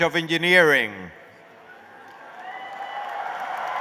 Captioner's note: applause